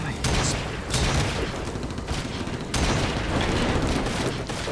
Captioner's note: gunshots banging